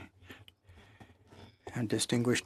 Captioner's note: speaking in French